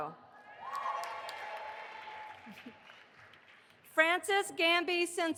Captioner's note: audience applauding